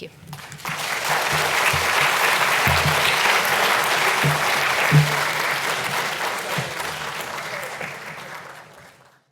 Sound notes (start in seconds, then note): 0.3 audience applauds